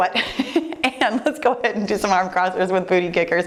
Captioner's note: laughs